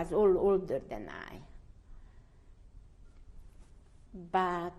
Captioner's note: pauses for 3 seconds